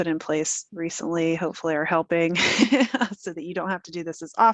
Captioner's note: chuckles